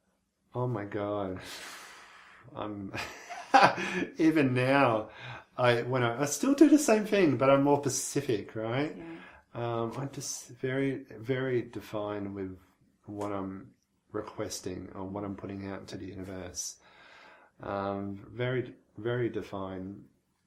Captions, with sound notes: - Oh my God. (exhaling) (chuckling) Even now, I still do the same thing but I'm more specific, right. I'm just very defined with what I'm requesting and what I'm putting out to the universe. Very defined.